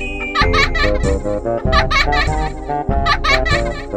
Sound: child Laughing Continues

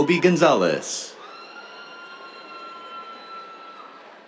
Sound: cheers

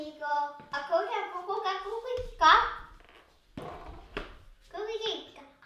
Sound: speaking made-up language

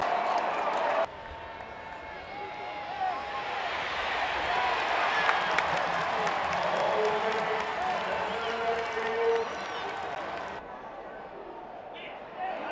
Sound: crowd noise

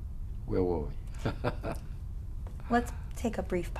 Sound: laughs

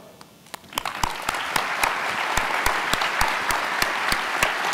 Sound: audience applauding

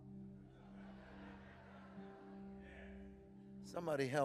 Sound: congregation laughing

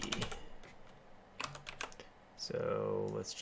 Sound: keyboarding

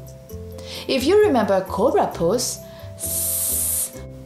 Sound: hisses

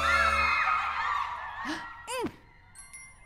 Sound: gasps

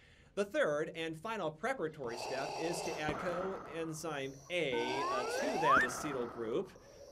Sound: heavy breathing interrupts

